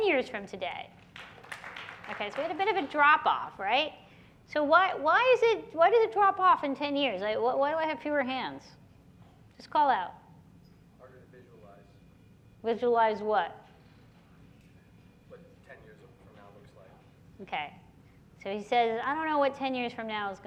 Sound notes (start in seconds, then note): 1.0 clapping